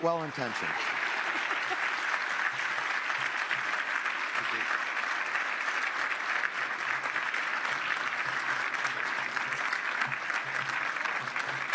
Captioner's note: applause